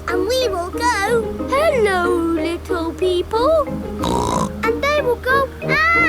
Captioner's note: snorts